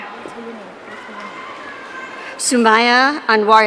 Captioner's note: audience cheering